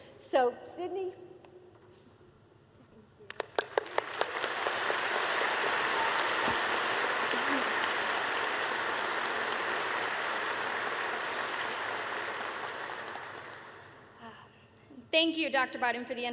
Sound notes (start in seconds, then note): 3.2 applause